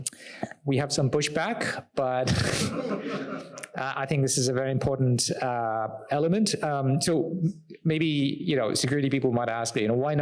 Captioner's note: audience laughter